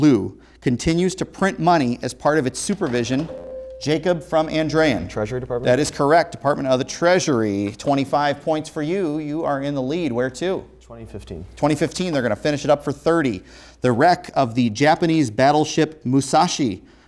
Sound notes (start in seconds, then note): 3.2 beeping